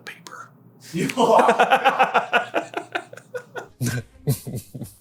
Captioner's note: dies laughing in background; giggles; smarmy self-indulgent chuckle